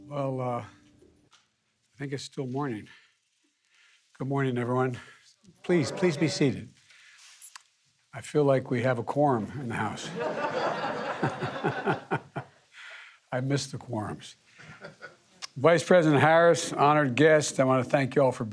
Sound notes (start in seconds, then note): 10.0 laughter